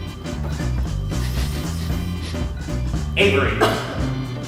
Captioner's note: sniffing; Avery coughs